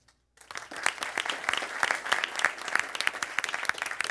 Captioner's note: crowd applauds